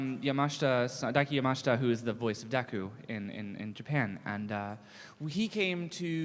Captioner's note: none